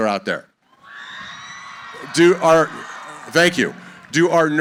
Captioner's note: cheering